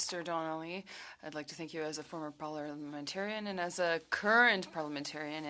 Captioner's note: speaking French